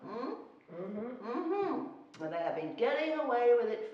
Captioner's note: murmuring affirmatives